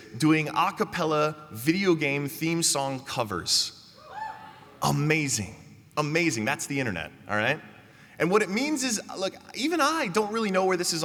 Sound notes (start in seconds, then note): 4.0 cheers